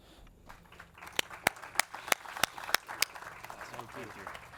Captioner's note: audience and clap